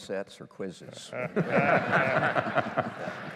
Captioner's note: laughter